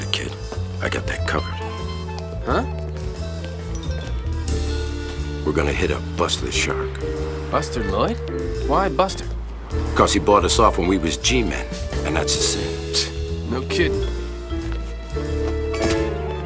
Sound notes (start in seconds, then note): 13.7 scoffs